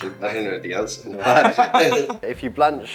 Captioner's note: laughter